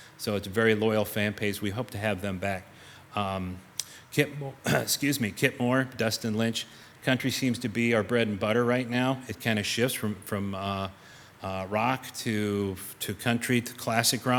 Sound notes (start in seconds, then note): 4.6 clears throat